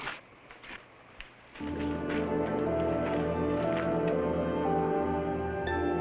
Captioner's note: snowmobiles driving